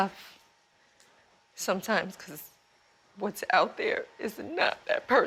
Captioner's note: voice breaking